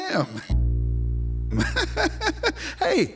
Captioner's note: chuckling